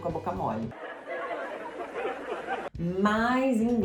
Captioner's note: laughter